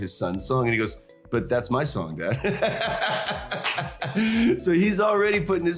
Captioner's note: laughs